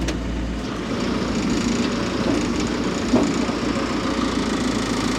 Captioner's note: telehandler rumbles